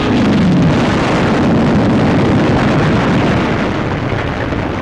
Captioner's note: explosions